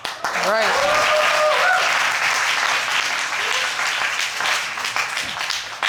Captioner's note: crowd applauding